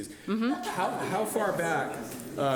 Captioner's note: audience laughing